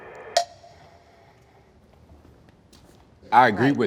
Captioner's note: beeps